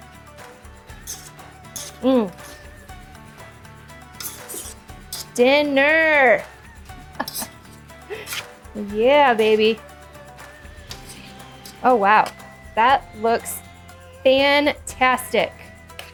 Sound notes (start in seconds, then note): 0.1 upbeat music; 7.1 laughs